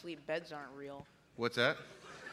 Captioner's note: laughter